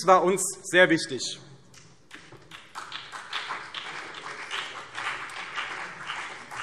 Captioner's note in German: Beifall CDU und BÜNDNIS 90/DIE GRÜNEN